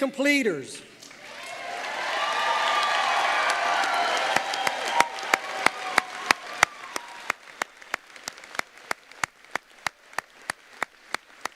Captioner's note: applause